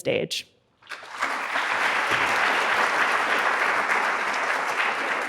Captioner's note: audience applauds